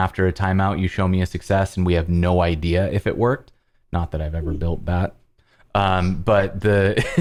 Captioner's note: laughter